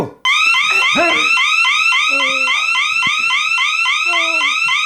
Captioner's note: siren blaring; Perez grunts